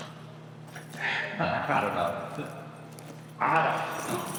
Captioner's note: exhales